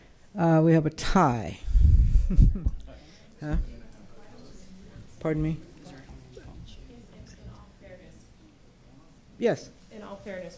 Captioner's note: laughter